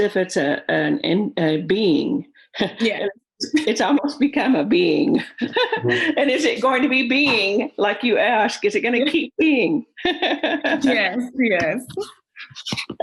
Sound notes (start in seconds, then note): 5.1 laughs; 10.1 laughs